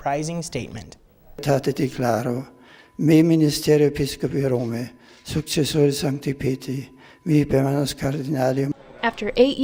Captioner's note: The Pope speaking in Latin